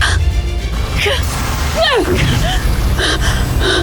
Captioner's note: powerful whoosh-crackle; epic music playing; powerful blast-crackle; grunts; powerful whoosh-crackle